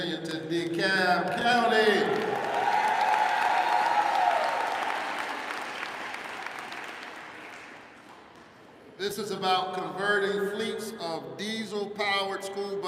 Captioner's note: applause